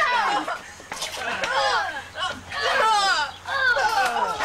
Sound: grunting continues

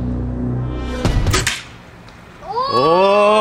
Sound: clank

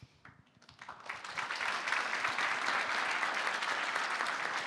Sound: applause

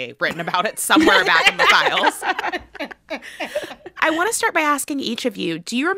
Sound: laughter

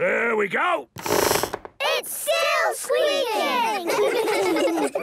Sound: squeaks

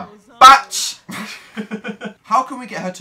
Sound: giggles

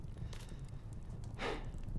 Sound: sighs

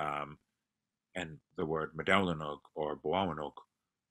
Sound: non-english speech

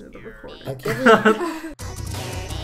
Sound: laugh

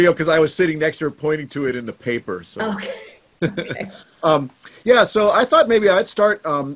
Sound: chuckles

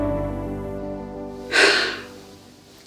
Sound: sigh

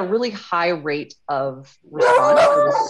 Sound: dogs barking

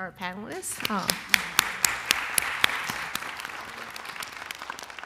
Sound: applause

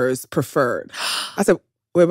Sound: gasp

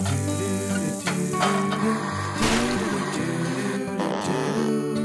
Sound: sink splashes; dishes clank; blender whirs

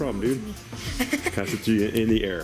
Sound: laughs

